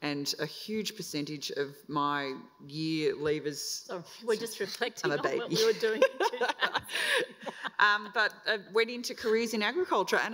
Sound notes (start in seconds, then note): 5.0 laughs